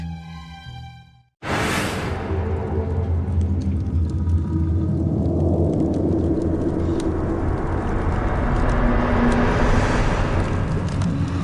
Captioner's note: menacing sound from dreams